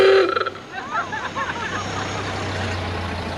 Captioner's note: ladies laugh